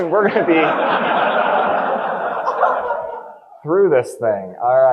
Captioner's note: audience laughing